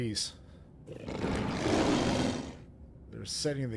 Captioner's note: growling